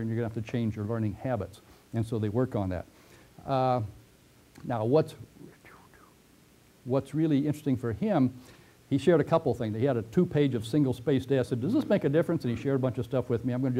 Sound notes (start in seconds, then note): 5.3 pause